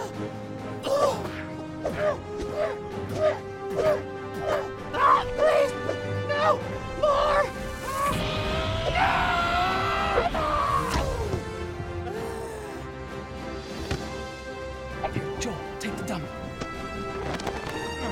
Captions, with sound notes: Please! No, more! [SCREAMING] [WHISPERING] Here Joel, take the dummy.